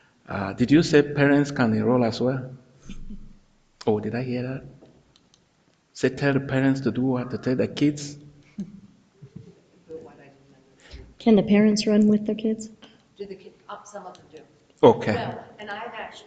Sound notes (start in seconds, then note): 9.2 people chuckle; 10.0 speaking distantly